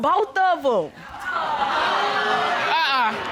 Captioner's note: audience boos